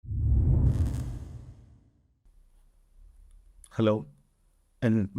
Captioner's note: intro sound effect